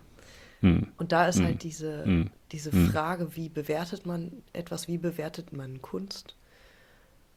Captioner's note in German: räuspern